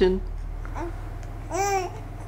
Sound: baby cooing

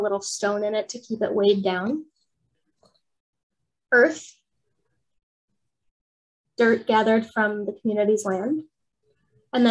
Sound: pause

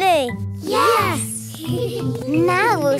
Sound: giggling softly

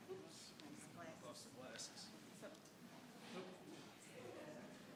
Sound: people chattering

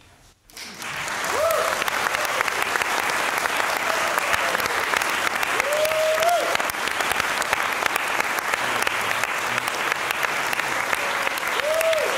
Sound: cheering, applause

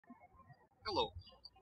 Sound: birds chirping

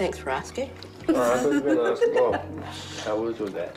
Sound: laughs

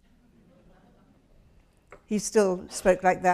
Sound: audience laughs

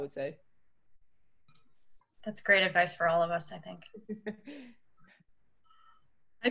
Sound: laughter

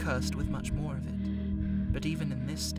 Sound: strained breathing

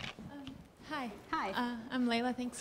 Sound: voiceover

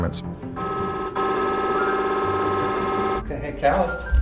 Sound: scanner blips

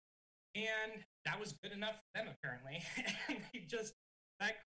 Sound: chuckling

